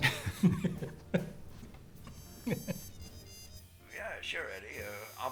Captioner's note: laughs